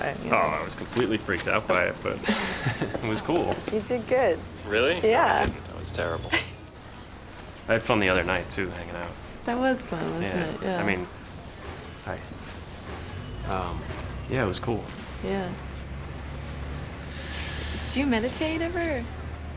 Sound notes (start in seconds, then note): 2.0 both laugh; 6.3 chuckles